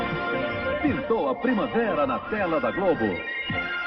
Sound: male announcer speaking Portuguese

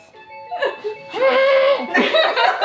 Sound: weird groaning

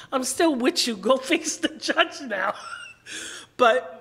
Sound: laughing

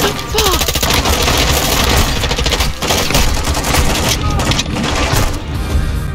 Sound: nam noises

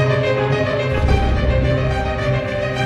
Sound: rumbling thud

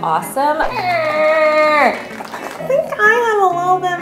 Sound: makes indecisive noise

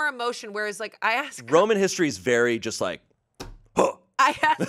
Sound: grunts

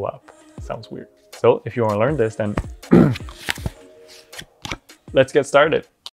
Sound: clears throat

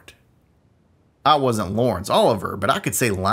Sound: southern accent

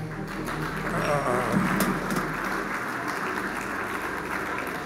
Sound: audience applauding

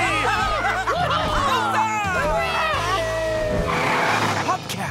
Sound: cheering; laughing

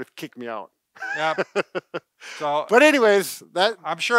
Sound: laughs

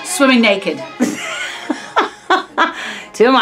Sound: laughing

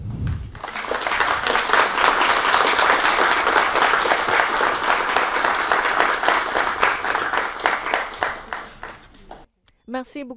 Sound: applause

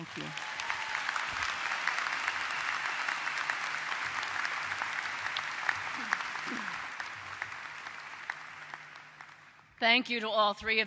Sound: applause

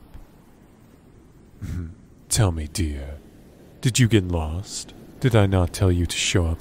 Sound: deep Chuckle

